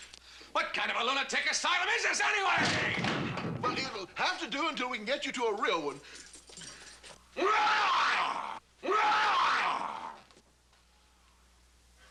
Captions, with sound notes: WHAT KIND OF A LUNATIC ASYLUM IS THIS, ANYWAY? WELL, IT'LL HAVE TO DO UNTIL WE CAN GET YOU TO A REAL ONE. ( roaring ) ( Adam roaring )